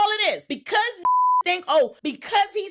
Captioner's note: beep